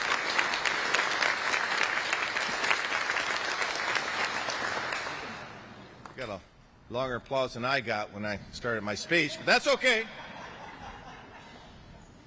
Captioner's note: applause